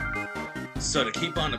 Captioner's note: weird route forfeit sound plays